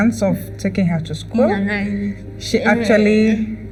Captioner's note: speaking English